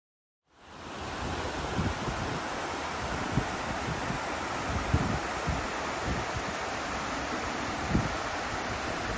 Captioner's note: water flowing